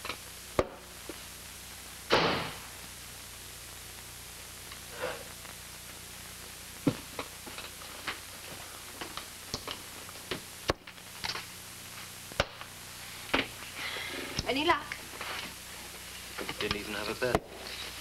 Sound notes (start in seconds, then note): 1.9 front door slams